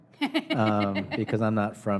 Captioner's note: laughs